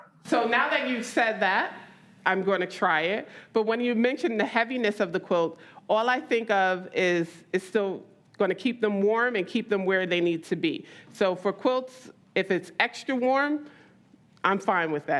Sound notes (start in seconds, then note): none